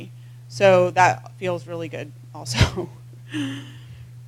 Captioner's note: laugh